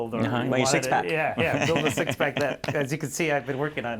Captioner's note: laughter